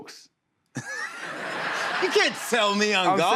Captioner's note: laughter